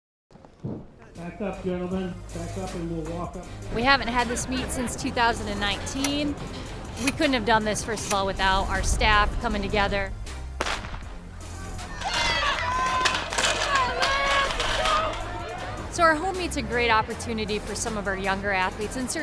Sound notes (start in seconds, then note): 10.1 starting gun banging; 11.7 crowd cheering